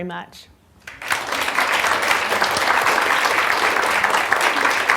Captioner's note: applause